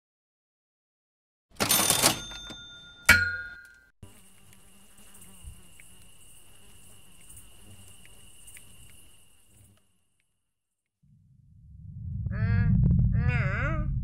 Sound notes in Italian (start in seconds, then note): 4.0 rumore di grilli